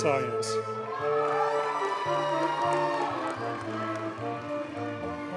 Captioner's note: audience cheers and applauds